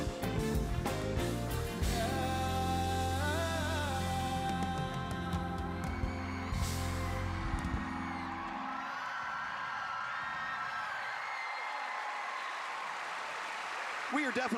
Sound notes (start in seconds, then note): 10.1 song ends, cheers and applause